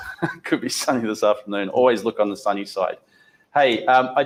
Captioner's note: chuckles